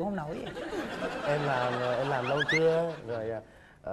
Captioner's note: laughing